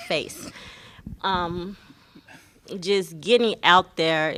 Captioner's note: laughter